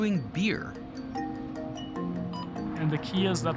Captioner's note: machine beeps